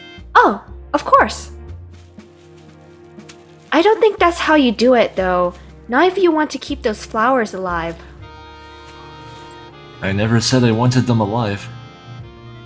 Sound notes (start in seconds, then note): 1.9 janus stuffs the flowers into a cup, audibly sloppily